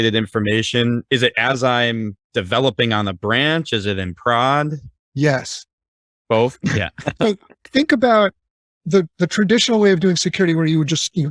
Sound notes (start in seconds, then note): 6.4 laughing